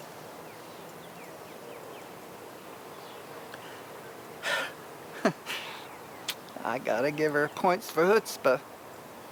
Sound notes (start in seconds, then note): 0.4 birds chirping; 4.4 sighs